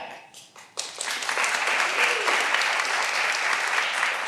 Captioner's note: all applauding